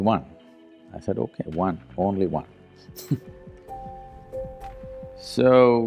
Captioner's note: laughs